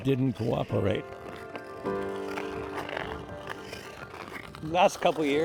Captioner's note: skate blades carving ice